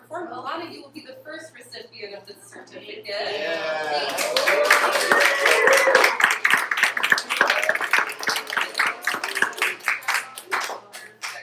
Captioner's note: applause